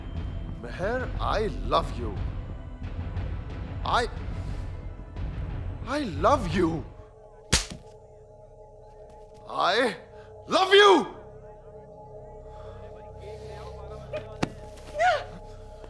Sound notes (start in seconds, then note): 9.1 Shouting; 14.5 Meher grunts